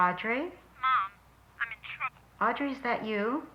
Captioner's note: on phone